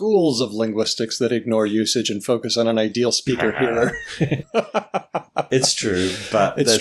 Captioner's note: laughs